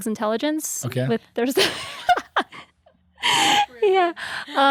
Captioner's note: guests laugh